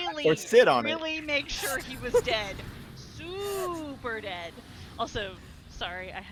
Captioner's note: laughs